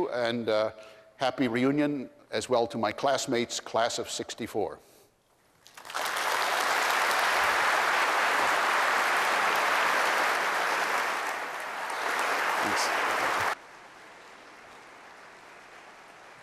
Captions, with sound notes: And happy reunion as well to my classmates, class of '64. [APPLAUSE]